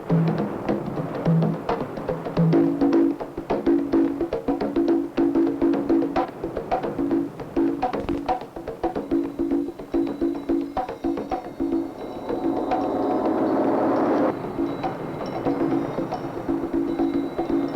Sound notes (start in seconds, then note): 9.1 bells chiming